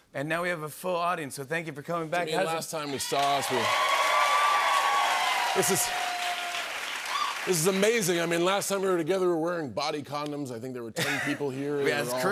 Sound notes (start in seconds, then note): 2.8 cheers and applause